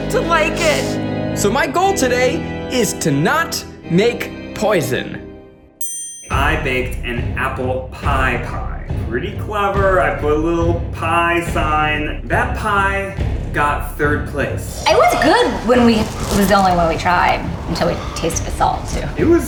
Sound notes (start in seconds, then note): 5.8 ding